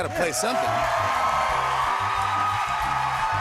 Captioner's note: cheers and applause